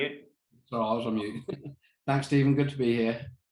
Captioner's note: chuckles